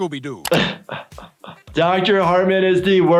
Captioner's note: laughs